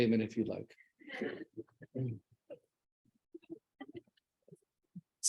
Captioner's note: audience laughs